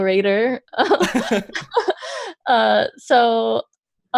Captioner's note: laughs